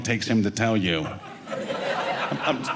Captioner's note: audience laughing